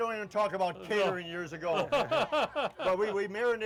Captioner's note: laughs